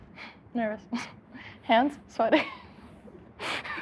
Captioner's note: giggles; laughs